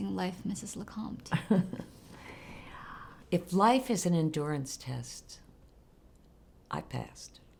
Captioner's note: laughs